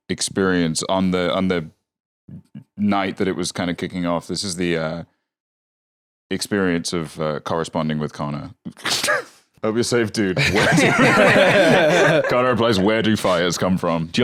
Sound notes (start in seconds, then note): 10.4 all laughing; 10.4 laughs